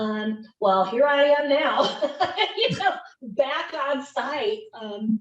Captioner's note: laughs happily